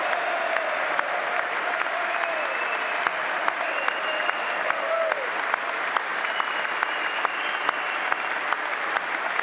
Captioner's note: applause